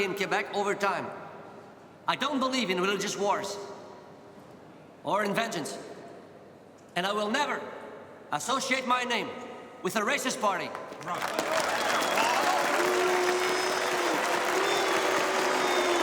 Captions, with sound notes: in Quebec over time. I don't believe in religious wars. Or in vengeance. And I will never associate my name with a racist party. (all cheering and clapping) (people booing)